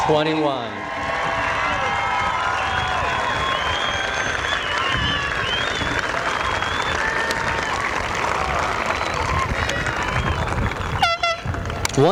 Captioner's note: applause